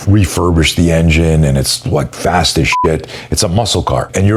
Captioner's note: beep